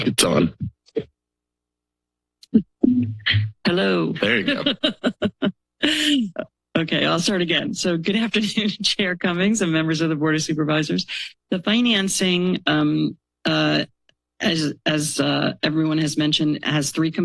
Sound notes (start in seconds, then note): 4.0 laughs